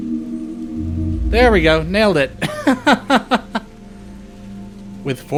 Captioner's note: laughter